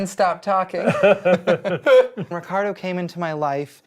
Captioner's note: both laughing